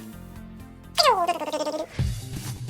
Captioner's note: mimicking chipmunks; playful music